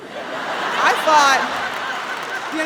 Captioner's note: audience laughs